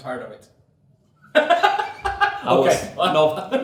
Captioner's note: laughs